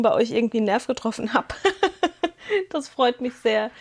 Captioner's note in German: gelächter